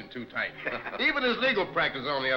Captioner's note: all chuckling